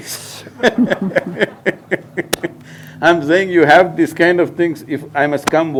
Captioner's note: laughter